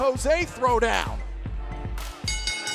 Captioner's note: bell